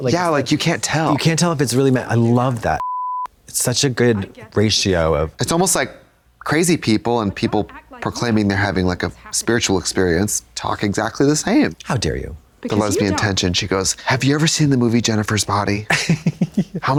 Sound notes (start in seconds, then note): 2.8 beep